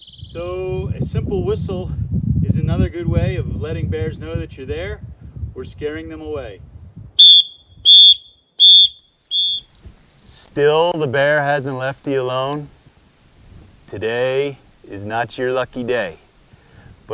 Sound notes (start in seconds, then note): 7.2 blows whistle 4 times